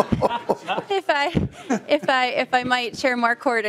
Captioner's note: laughing